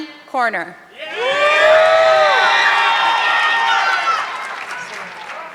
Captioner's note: audience clapping